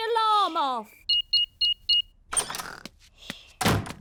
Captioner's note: beeping